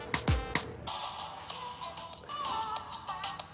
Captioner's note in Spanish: Suena el celular